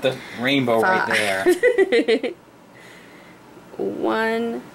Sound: laughs

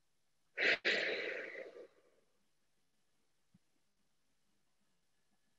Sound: she exhales

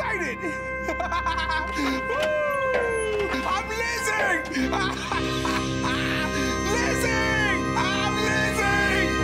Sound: laughing

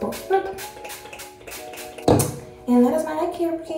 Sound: spray whooshing

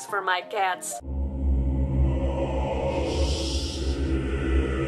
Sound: demonic voice

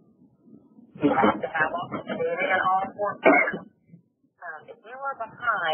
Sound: coughing

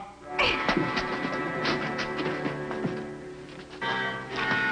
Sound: giggling

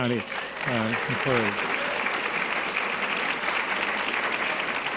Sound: audience applause

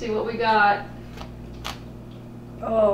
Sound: crunch

